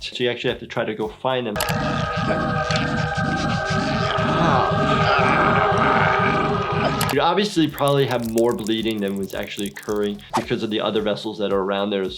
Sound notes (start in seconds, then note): 1.6 haunting music; 5.2 groaning